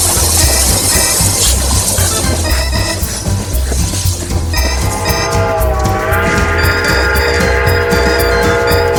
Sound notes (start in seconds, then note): 4.7 train whistle